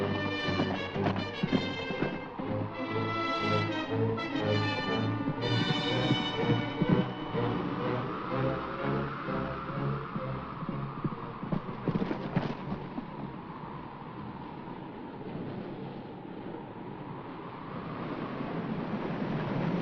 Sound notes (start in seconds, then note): 0.1 hooves pounding; 2.5 ominous music; 2.5 wind blows; 5.4 hooves pounding; 7.0 ominous music; 7.0 wind blows; 10.7 hooves pounding; 12.6 wind blows